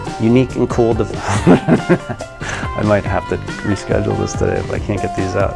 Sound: laughs

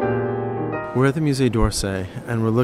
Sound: voiceover

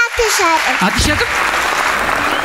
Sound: applause

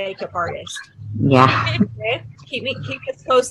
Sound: chuckles

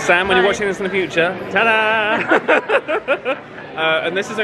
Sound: laughs

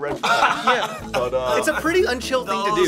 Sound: laughing

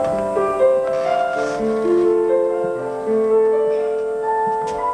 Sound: bed creaks

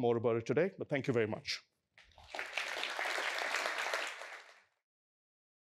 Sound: applause

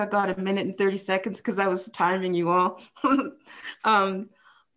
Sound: chuckles

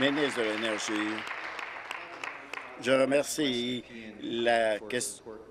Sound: applause

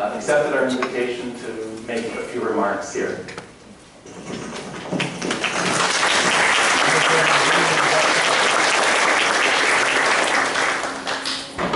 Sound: applause

